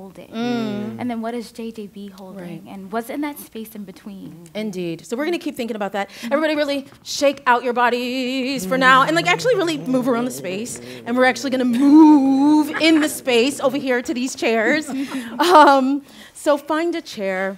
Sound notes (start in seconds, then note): 8.8 others start shuffling and laughing; 14.7 laughing